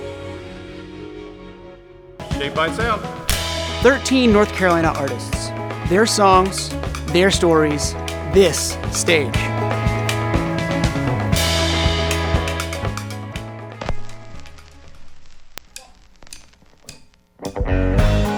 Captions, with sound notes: - "Shaped by Sound." [clapperboard snapping] 13 North Carolina artists. Their songs. Their stories. This stage. [upbeat music] [record swooshing]